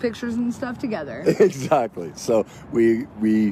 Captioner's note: laughs